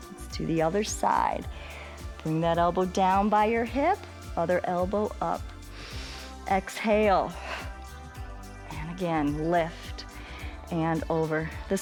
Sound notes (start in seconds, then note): 5.7 exhales; 5.7 inhales